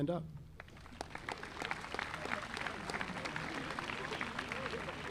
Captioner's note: audience applauding